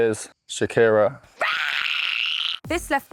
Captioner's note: screams